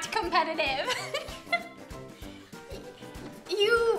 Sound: laughs

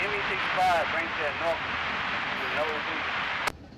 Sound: radio chatter

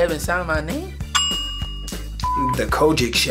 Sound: bell sound

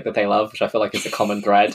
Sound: laughs

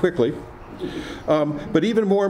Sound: some laughing

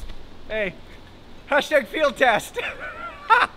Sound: laughs

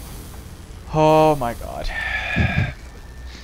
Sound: sigh

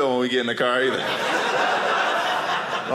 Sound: audience laughing

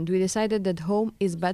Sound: speaking Foreign Language

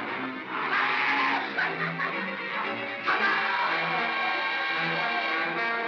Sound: laughter

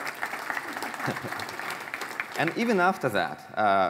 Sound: applause

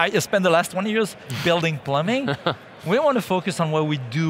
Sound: laughing

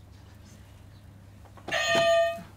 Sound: clang

